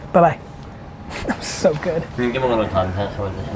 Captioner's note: laughs